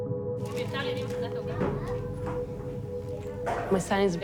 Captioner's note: people chattering